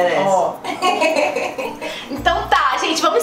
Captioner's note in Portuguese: risos